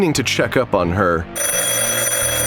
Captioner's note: ringing